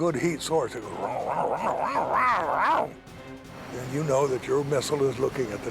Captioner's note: growling